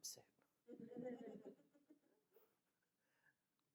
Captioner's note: laughter